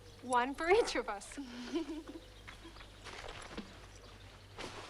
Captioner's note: both laugh